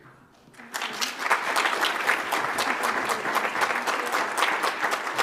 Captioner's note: audience applauds